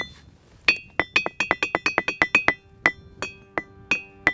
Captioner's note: rocks tapping